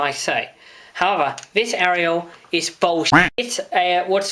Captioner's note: quack